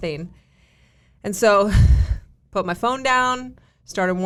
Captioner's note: exhales deeply